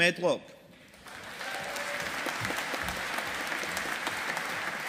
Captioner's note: audience applauding